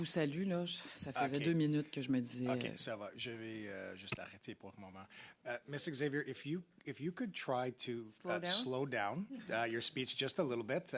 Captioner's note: speaking French